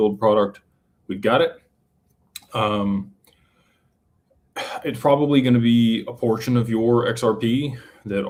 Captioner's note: clears throat